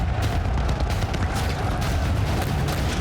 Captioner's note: gunshots